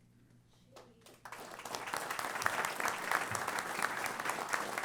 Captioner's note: applause